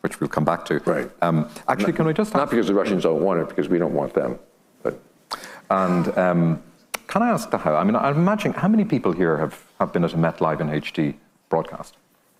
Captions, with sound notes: - Which we'll come back to. - Right. - Actually, can we just-- - Not because the Russians don't want it, because we don't want them, but. (laughing) - And can I ask? I mean, I'm imagining, how many people here have been at a "Met: Live in HD" broadcast?